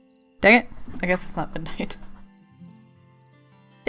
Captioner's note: laughs